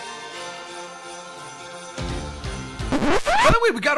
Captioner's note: record Scratching